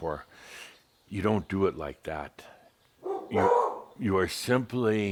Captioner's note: Belle barks again